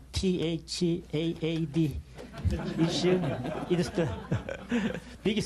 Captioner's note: laughter